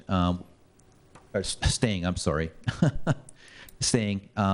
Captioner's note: laughing